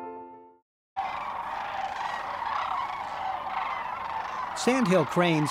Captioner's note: birds calling